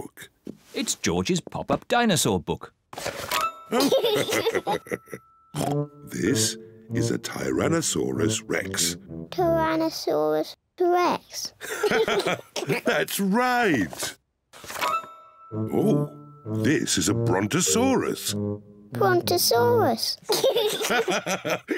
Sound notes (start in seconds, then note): 3.7 giggles; 11.6 laughs; 20.3 both laugh